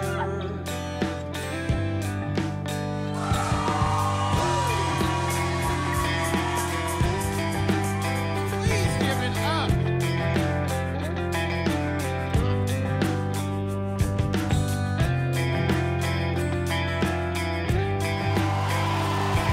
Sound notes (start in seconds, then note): 0.9 audience cheers; 18.0 crowd cheers